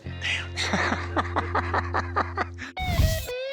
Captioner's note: laughs